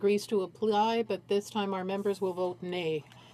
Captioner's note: speaking French